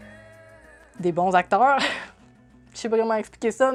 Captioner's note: laughs